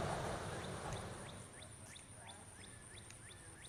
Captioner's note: birds twittering